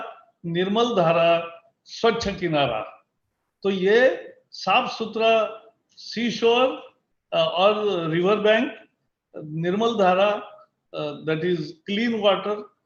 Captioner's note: speaks in Hindi – not transcribed